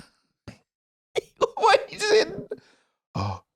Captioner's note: laughing